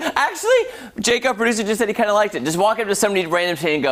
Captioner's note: laughter